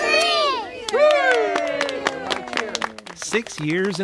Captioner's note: clapping and cheering